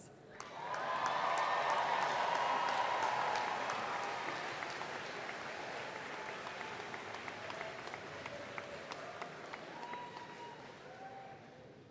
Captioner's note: cheering